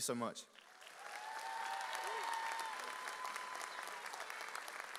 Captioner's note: audience cheers